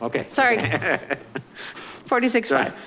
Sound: laughing

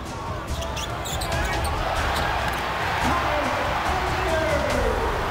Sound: audience cheers

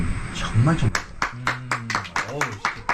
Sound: clap clap clap

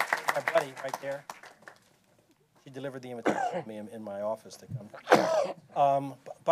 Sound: applause

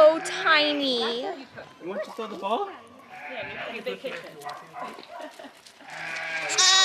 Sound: sheep baa in background; sheep screams

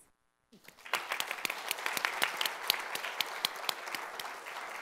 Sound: audience applauding

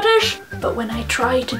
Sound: puts on poor attempt at an accent

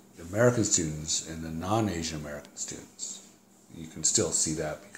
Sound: buzzing in background

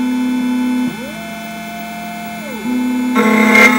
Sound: machine grinding; machine whizzing; machine and key grinding

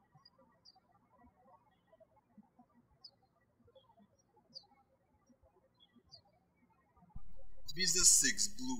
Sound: birds chirping

